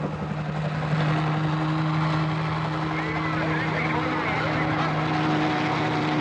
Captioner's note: chattering